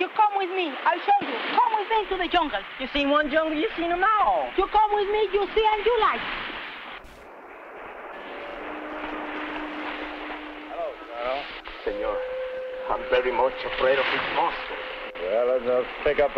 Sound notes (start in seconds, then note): 7.7 soft instrumental music; 10.7 men faintly chattering